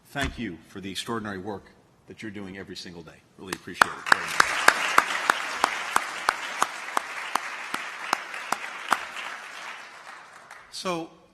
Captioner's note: applause